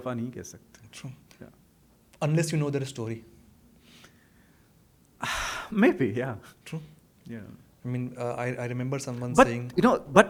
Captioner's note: hindi; sighs and gasps